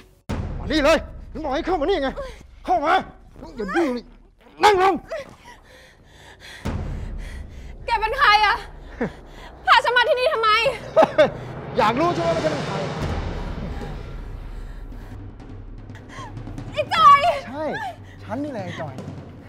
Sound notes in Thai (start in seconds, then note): 5.1 หายใจแรง; 5.1 ร้อง; 10.6 หัวเราะ